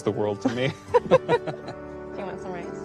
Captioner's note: laughing